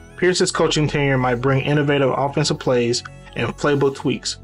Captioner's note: voiceover